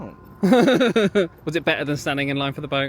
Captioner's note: laughs